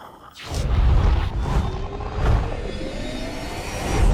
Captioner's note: whooshing